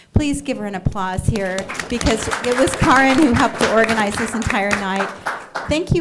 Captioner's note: applause